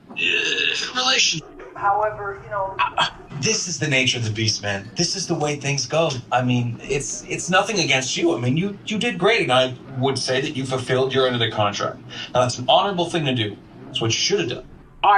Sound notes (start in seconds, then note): 1.7 dogs barking